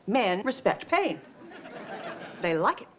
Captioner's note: audience laughs